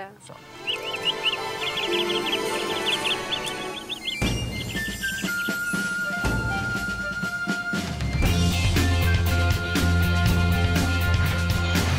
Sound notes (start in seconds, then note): 0.2 birds chirping; 1.2 rising string music